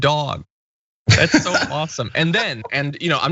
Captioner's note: laugh